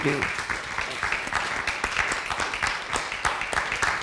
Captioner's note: applause